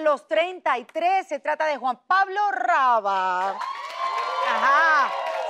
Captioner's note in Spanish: Ovación